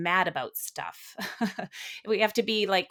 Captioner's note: laughing